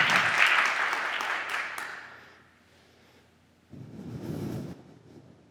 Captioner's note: applause